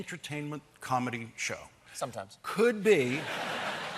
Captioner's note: laughter